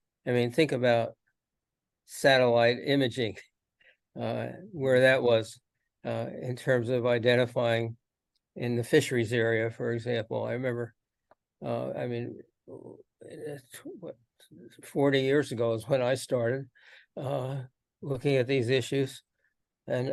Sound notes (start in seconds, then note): none